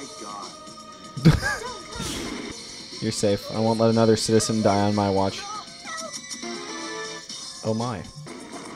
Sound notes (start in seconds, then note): 1.2 laughs